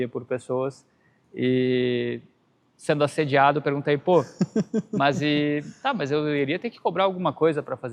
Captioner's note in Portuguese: risadas